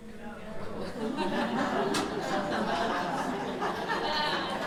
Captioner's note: audience laughs